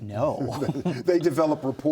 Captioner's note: men laugh